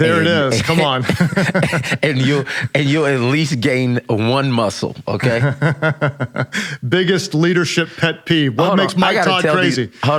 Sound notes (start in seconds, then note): 1.0 laughs; 5.3 laughs